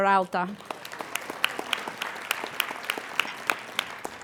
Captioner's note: applauding